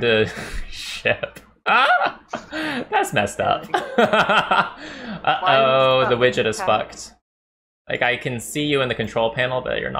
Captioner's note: laughter